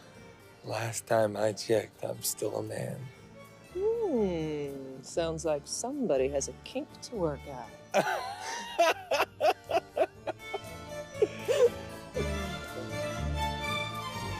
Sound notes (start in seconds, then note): 7.9 Radovan laughs; 9.1 orchestral music continues